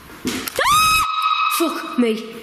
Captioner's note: screams